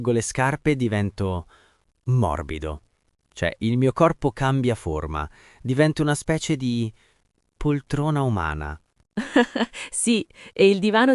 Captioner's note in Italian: risate